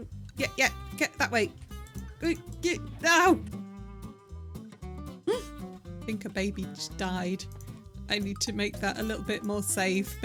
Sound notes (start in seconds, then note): 1.7 noises of frustration; 5.1 gasp